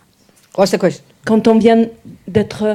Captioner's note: speaking in French